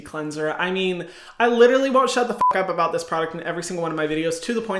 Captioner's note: beep